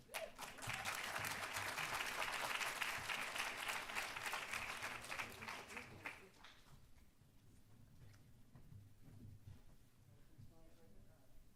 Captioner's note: applause